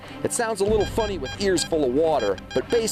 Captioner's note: beeping